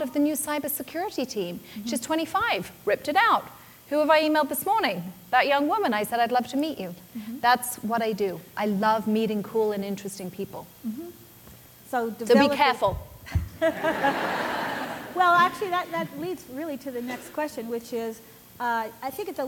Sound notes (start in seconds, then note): 13.3 laughter